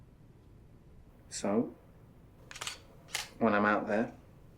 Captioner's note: shutter clicks